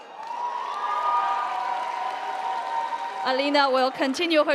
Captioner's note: audience applauding; audience cheering